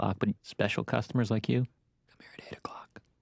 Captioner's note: whispering